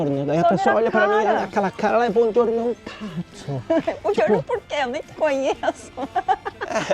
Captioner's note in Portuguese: risadas